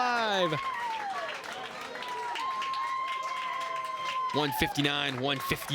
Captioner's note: crowd cheers and applauds